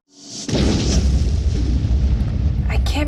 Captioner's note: explosion